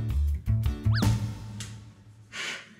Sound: slap

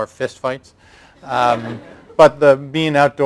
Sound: laughter

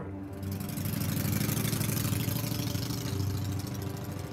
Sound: engine hums

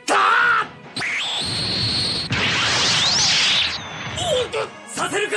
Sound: SFX: spell sounds

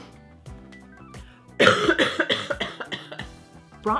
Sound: cough

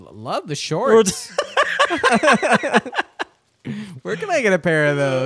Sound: both laughing

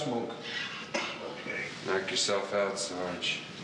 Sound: coughs

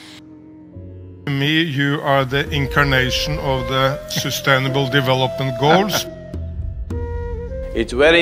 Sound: Sadhguru laughs

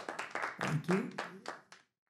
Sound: applause

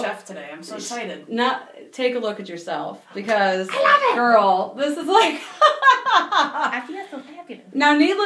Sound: laughing

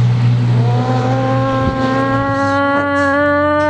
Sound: awful imitation of a siren

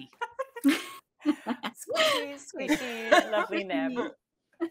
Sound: players laughing

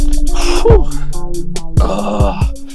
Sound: exhales deeply

